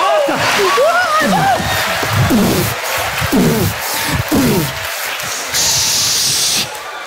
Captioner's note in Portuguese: pancadas